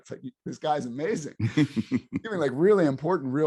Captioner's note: laughs